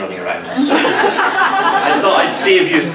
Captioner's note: audience laughs